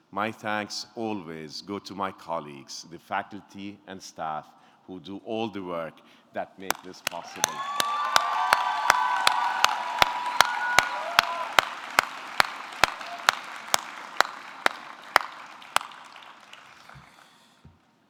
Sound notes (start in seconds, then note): 6.6 audience clapping; 6.7 audience cheering